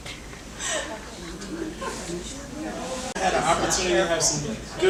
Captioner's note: audience chattering